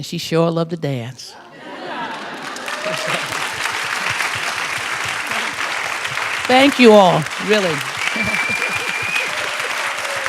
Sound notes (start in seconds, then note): 1.4 laughter; 2.0 applause